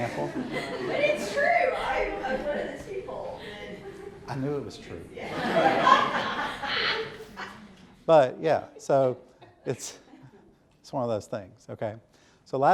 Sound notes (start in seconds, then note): 0.0 audience laughing; 5.2 audience loudly laughing; 9.1 softly chuckles